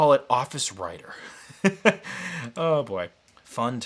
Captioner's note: laughs